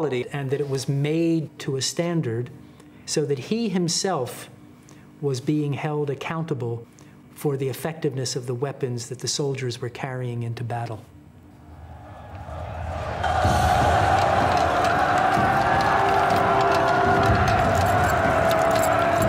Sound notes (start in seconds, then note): 11.7 soldiers chanting; 13.6 dramatic music; 13.6 soldiers yelling